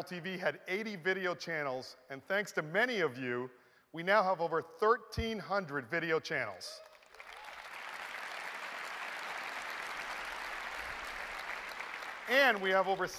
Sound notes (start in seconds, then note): 5.1 applause